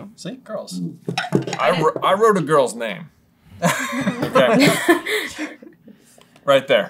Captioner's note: laughter